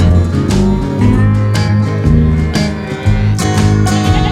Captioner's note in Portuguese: Mugidos